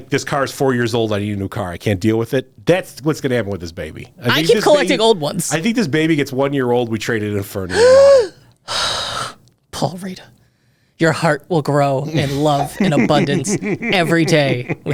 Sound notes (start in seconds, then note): 7.7 gasps